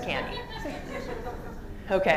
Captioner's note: laughter